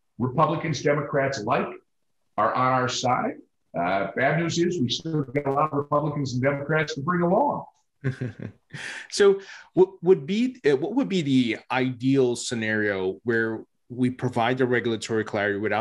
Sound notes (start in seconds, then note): 8.0 chuckles